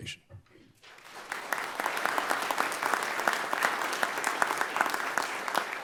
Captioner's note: everyone applauding